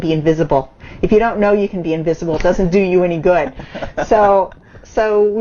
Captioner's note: laughs